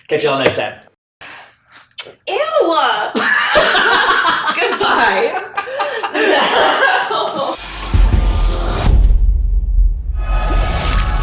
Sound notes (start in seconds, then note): 1.8 mimics kissing noise; 5.1 both laughing; 7.6 intense music